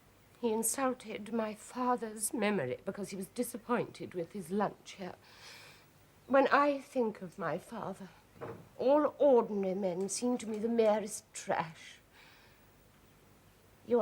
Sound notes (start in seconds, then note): none